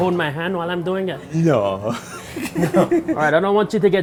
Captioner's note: laughing